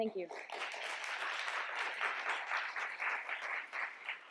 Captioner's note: applause